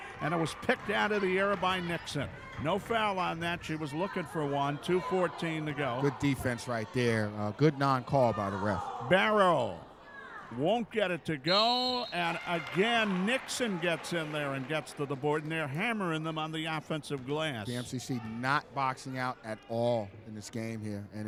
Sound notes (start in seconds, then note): 11.4 referee whistling